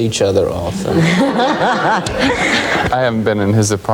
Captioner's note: audience laughing